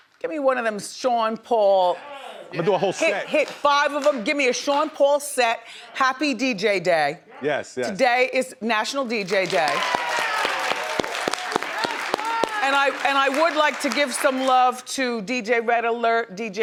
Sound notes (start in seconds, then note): 9.3 audience cheers and applauds